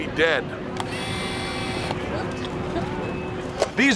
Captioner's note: camera shutter clicks